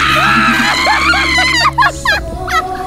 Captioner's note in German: Kreischendes Gelächter